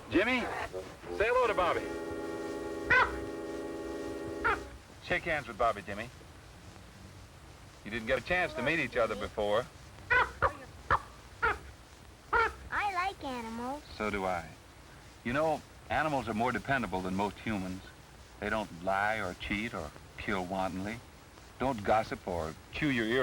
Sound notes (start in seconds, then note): 2.9 caw; 10.0 cawing